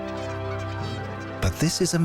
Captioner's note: birds squawking